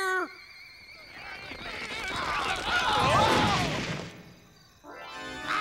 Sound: clamoring

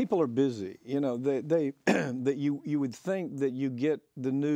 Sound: clears throat

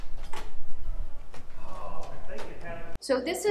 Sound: latch clicking

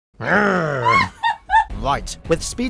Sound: laughs

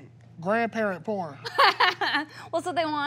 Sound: laughing

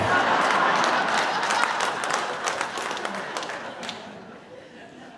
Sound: audience laughing and clapping

